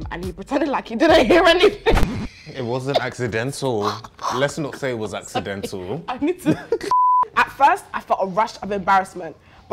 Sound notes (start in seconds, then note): 1.1 laughs